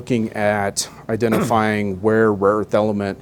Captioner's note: clears throat